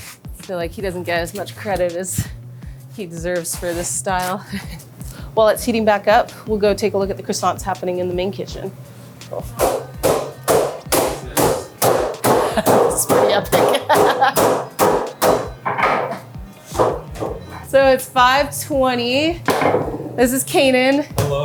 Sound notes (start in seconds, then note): 9.4 worker hammering with rolling pin; 13.3 laughing